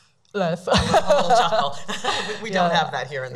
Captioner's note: laughing; laughs